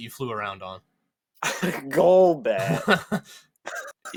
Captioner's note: laughs